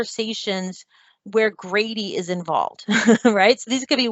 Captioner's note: laughs